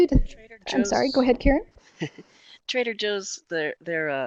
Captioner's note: laughs